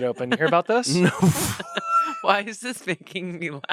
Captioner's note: laughs